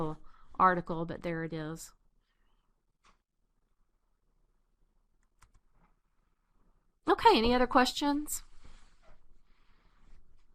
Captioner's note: pause